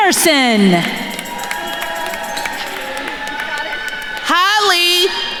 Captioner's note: attendees cheering and applauding